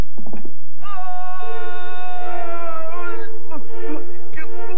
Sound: screams

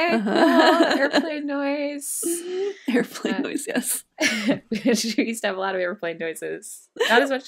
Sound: laughs

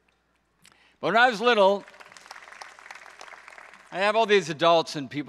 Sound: audience applauds

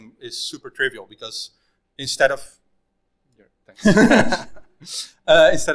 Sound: laughing

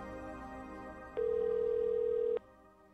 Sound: ringing continues

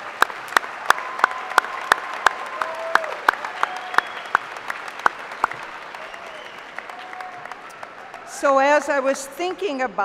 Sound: applause

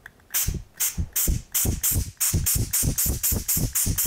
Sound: blow gun hissing

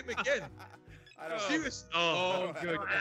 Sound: laugh

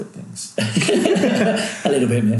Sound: laughing

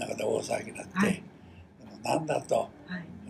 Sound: foreign language

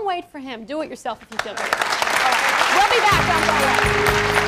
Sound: applause

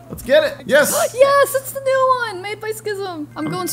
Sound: gasps

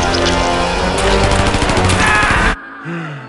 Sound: gunshots and screaming; sighs

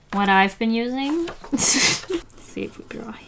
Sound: laughs

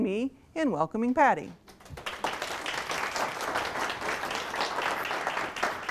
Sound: applause

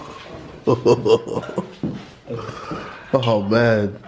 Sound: laughing

